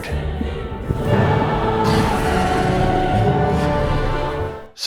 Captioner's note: roars